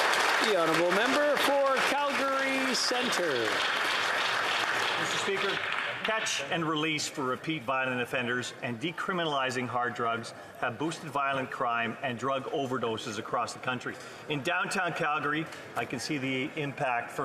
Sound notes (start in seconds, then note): 0.0 applause